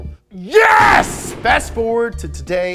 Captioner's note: thunderclap